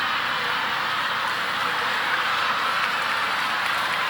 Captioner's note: audience laughing